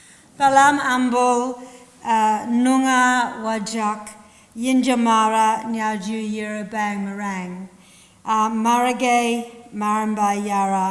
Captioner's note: language spoken